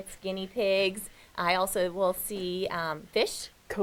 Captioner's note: none